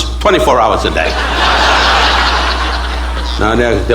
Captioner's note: audience laughing